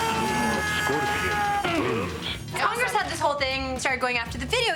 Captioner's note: screaming